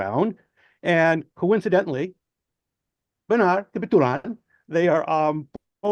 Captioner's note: foreign language